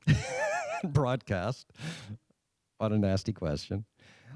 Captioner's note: laughing